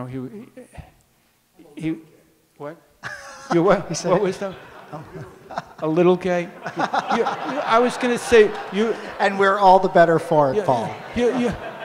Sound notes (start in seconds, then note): 3.0 audience laughs; 10.4 audience laughs